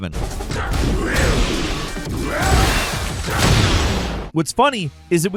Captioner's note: punches striking; upbeat music